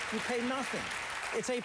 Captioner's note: applause